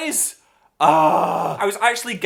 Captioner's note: frustrated noise